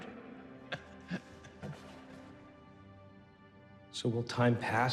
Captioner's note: Thomas chuckling